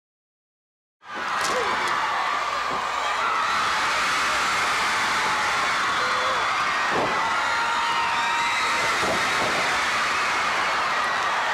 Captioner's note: crowd cheering